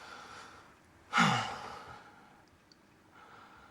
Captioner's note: sighs